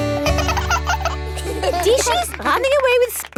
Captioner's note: both laugh